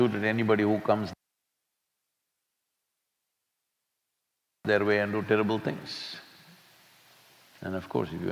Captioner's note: audio cut